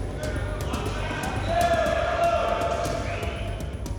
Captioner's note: indistinct shouting